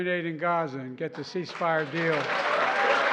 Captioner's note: applause